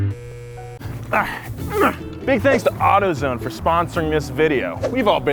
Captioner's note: groans